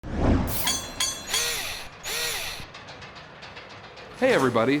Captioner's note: mechanical SFX